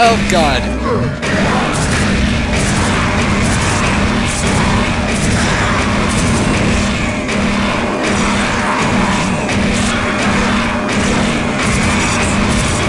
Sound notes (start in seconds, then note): 0.0 gunshots; 4.0 gunshots and monster roars; 11.5 more gunshots and monster roars